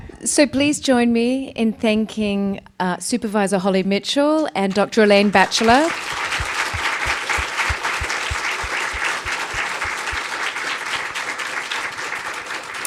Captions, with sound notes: So please join me in thanking Supervisor Holly Mitchell and Dr. Elaine Batchlor. (audience applauding)